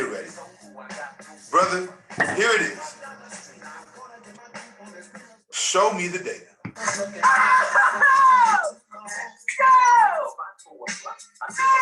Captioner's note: laughter, cheering